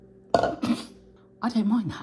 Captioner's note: cup thudding; laughing